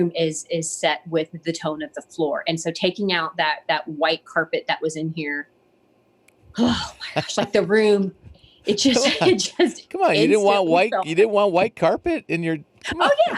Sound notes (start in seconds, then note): 6.5 sighs; 8.6 laughs; 12.6 laughs